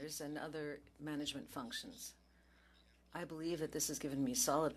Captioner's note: speaking French